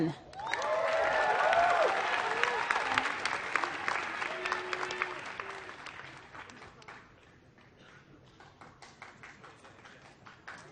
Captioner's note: applause